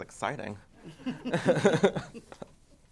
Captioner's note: laughter